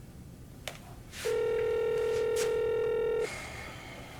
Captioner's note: phone ringing; Joseph sighs